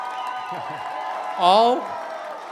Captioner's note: chuckling